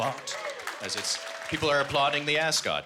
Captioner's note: applause